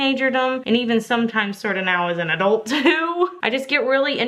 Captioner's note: laughs